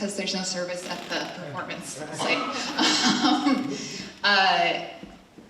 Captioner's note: laughs